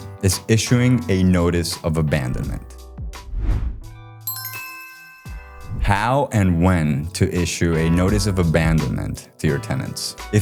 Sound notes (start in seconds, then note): 3.2 logo whooshes; 4.2 bell chimes